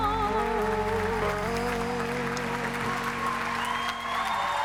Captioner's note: cheering and applause